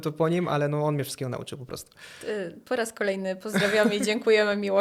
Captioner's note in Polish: śmiech